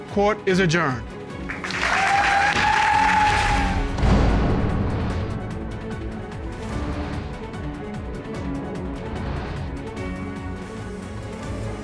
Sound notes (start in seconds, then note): 1.4 audience cheering, applauding